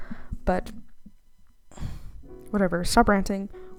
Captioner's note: sigh